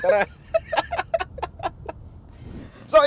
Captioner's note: laughs